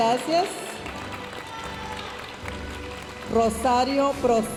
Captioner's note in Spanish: aplausos de la audiencia